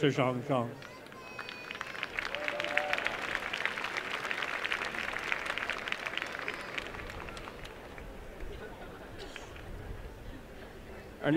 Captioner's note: applause